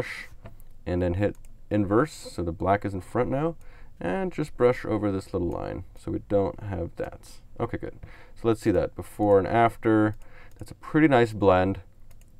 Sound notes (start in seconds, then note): 10.0 clicks on mouse